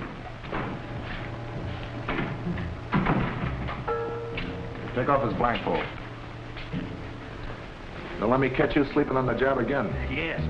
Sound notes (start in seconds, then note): 2.9 door thudding